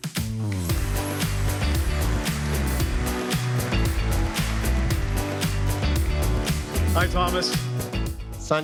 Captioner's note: applause